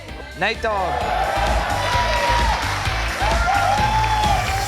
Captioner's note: clapping